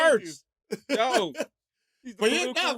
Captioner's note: laughing